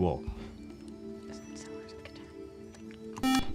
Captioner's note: whispering; buzzer